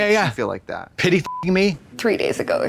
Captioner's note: beep